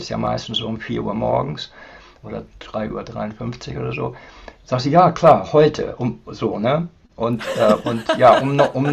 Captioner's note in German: gelächter